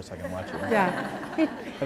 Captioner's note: laughter